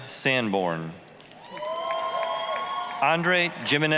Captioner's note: applause, cheering